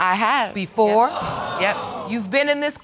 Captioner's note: audience exclaiming